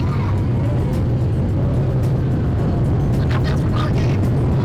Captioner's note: airplane rumbling